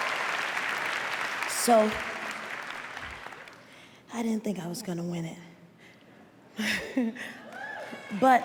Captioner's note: laughs